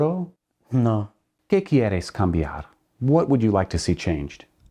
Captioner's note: speaks in Spanish